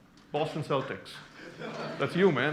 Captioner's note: laughter